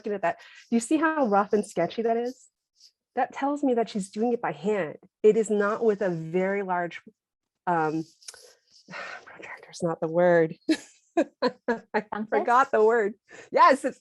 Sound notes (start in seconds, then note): 10.7 laughter